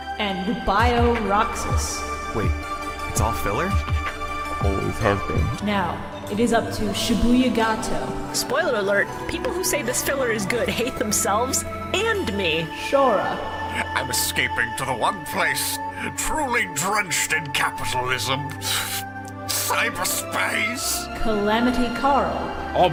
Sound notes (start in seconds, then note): 13.7 Tim Curry voice; 22.7 Gozaburo Kaiba voice